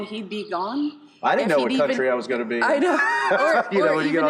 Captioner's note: laughs